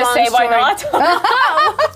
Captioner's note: laughing